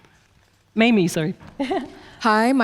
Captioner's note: chuckles